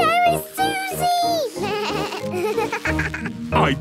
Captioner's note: bleating, laughing